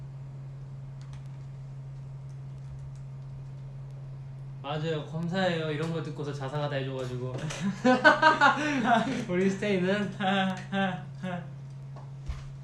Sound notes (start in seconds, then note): 10.2 risa nerviosa